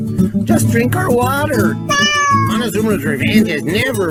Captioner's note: cat meows